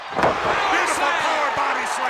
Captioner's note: audience cheers